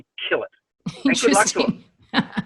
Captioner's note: laughs